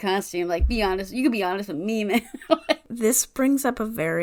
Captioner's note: laughing